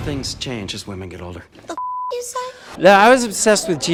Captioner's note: beep